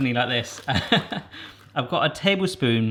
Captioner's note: laughing